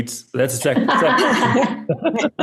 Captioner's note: laughs